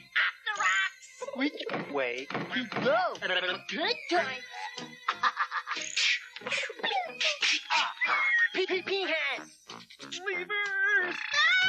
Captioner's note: screaming and random nonsense